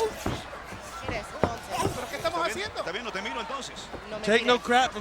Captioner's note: commentators and Chyna speaking Spanish